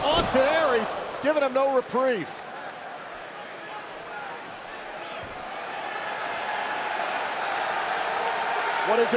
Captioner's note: crowd cheering